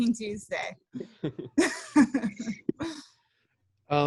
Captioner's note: laughter